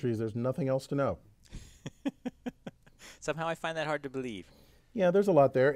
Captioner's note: laugh